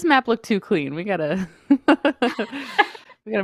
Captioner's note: laughs